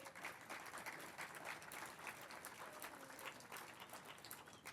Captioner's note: applause